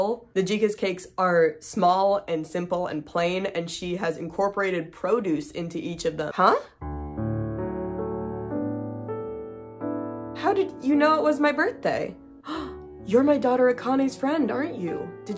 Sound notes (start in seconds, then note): 6.8 piano music begins; 12.4 gasp